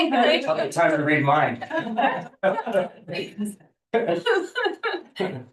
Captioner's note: laughter